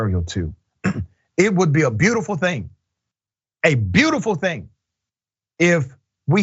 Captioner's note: cough